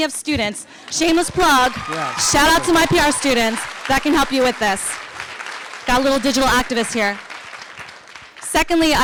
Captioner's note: applause